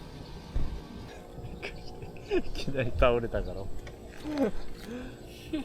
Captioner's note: laughs